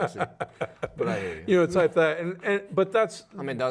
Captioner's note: laughing